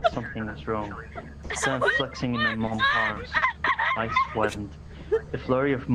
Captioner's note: screams of terror